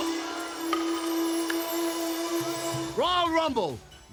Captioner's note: Yokozuna claps